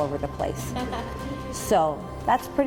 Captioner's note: kids laughing